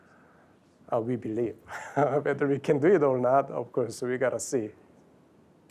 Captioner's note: laughs